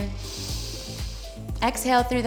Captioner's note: inhales